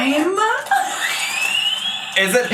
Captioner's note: laughs